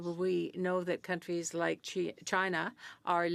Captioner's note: speaking French